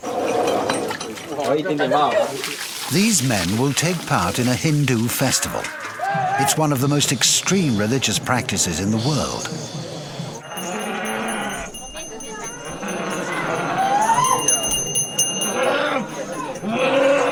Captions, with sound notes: (people chattering) These men will take part in a Hindu festival. It's one of the most extreme religious practices in the world. (people chattering) (bell ringing)